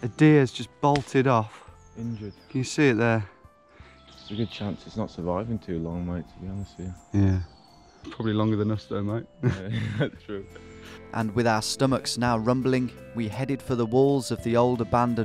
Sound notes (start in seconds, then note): 9.4 laughing